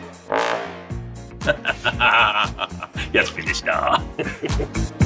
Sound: laughs

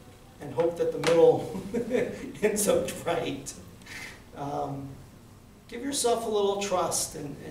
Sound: laughing

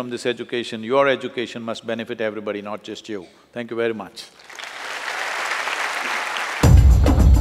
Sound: applause

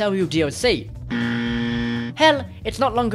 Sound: wrong buzzer

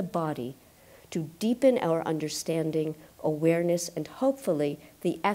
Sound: none

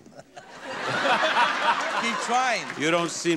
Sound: audience laughs

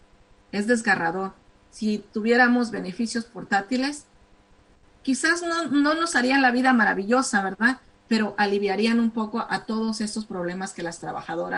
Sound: speaking spanish

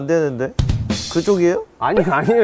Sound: hahahahahahahahahaha

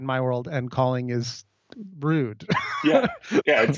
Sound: laughs

